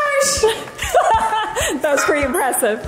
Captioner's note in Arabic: يضحك بصوت عالٍ